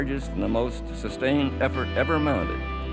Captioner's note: none